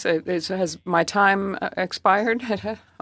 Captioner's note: speaking French